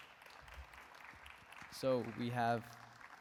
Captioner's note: applause